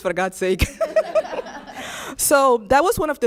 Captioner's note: laughs